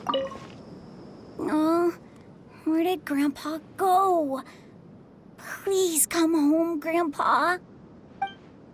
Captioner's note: sigh